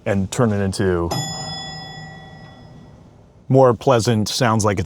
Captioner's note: bell dings